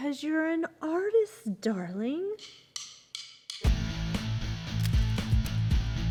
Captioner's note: camera shutter clicking; upbeat rock music